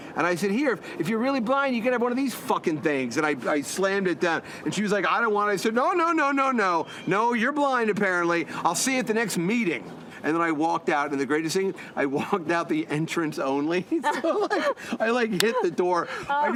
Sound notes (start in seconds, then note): 13.8 both laughs